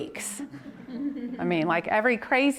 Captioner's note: audience laughs